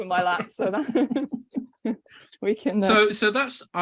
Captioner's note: all laughing